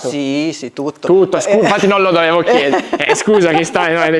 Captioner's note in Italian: risate